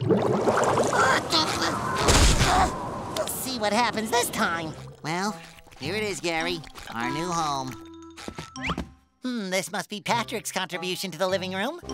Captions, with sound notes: [grunting] We'll see what happens this time. Well, here it is, Gary, our new home. Hmm, this must be Patrick's contribution to the living room.